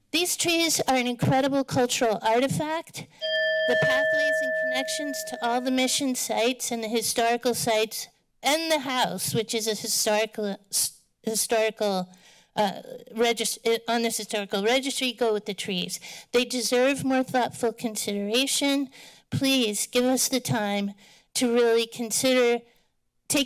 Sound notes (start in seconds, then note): 3.2 bell ringing